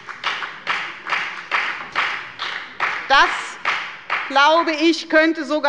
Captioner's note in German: Beifall bei der FDP